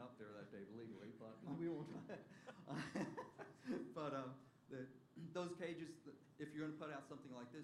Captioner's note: laughter